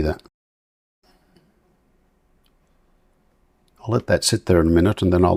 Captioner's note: silence